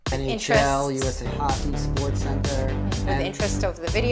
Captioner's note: mumbles